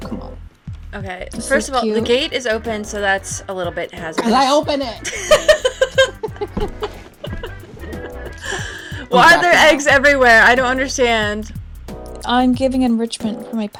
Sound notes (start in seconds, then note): 8.3 laughing